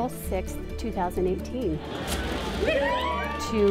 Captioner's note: crowd cheers